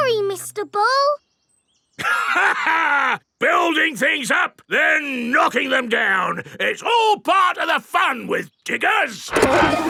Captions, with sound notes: Sorry, Mr. Bull. (LAUGHS) Building things up, then knocking them down! It's all part of the fun with diggers!